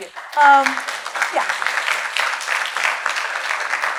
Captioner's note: applause